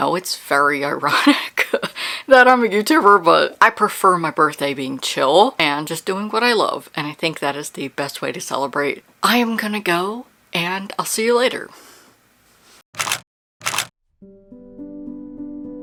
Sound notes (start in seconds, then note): 11.7 camera shutter x2